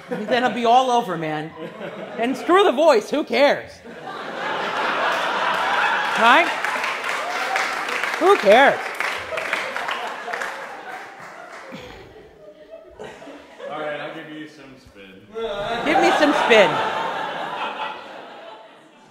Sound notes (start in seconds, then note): 0.0 laughs; 1.7 laughing; 5.1 applause; 15.3 class laughs